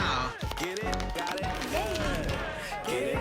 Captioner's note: clapping